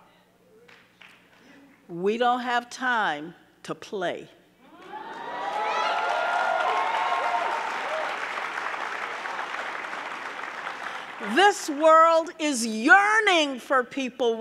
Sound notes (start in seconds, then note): 4.7 audience cheering; 4.8 audience clapping